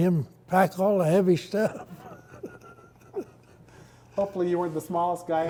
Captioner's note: laughs